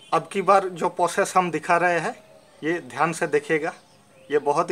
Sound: in Hindi

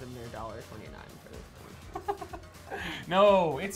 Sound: laughs

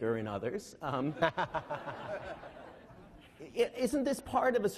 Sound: laughing

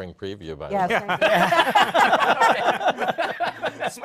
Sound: laughter

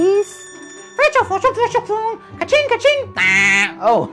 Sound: speaking elvish

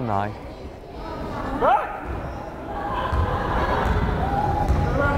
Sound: crowd chattering

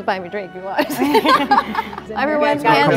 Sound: group laughing

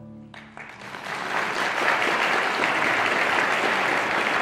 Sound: audience applauding

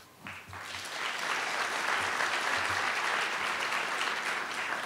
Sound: audience applauding

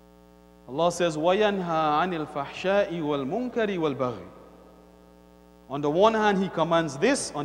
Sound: Arabic

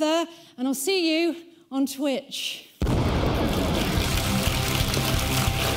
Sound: explosion; audience applauding

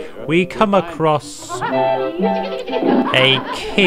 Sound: giddy laughter

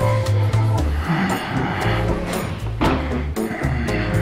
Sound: sighs, groans

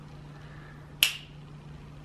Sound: snap

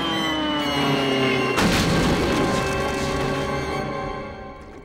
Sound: crashing, thudding

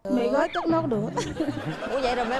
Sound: laughing

